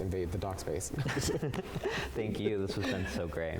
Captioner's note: both laugh